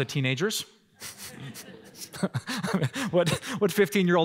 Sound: laughter

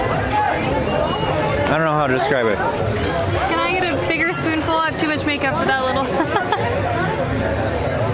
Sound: laughter

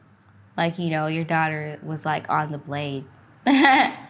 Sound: laughing

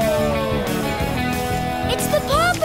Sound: howling

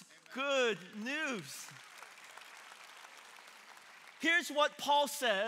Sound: congregation clapping

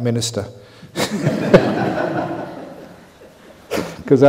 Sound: laughter

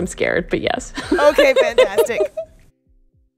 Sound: laughter

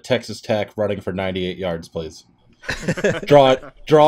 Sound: laughter

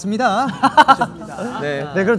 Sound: hahaha

